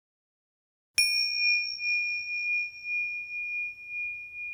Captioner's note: bell rings